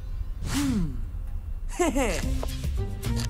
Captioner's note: chuckles